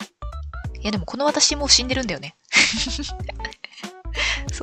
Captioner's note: laughs